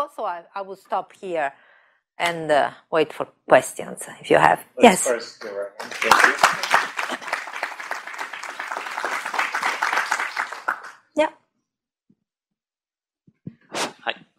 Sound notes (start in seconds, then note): 5.8 applause